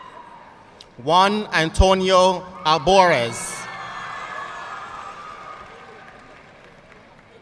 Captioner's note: audience cheering and applauding; audience cheering